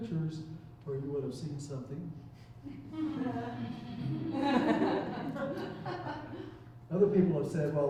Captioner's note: chuckling